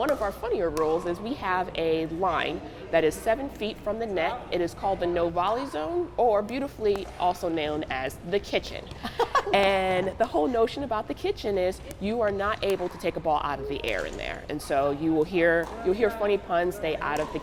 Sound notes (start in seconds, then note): 9.0 laughs